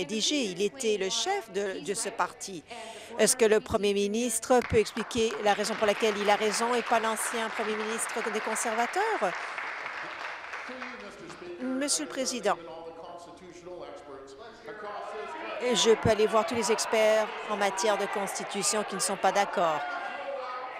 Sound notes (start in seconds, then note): 7.7 applause